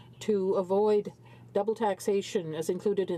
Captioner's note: speaking in french